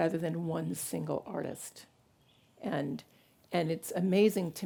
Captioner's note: none